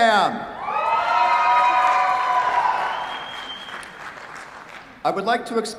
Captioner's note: cheers, applause